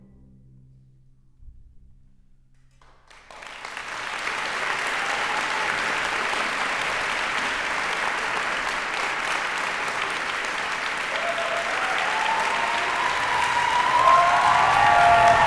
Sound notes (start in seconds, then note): 2.8 applause; 11.1 cheers and applause